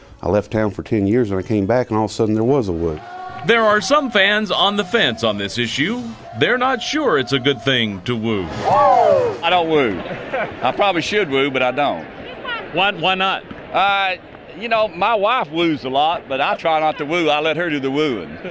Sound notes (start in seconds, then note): 8.5 crowd; 9.9 laughter off-camera